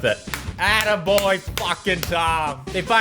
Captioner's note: clap